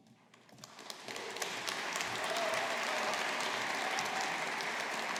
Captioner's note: audience applauding